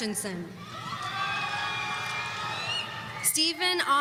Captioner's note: audience cheering